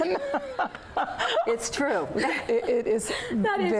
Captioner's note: laughter